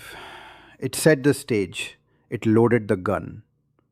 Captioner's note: sighs